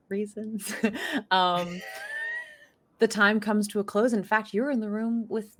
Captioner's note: laughing